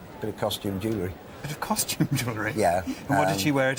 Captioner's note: laughs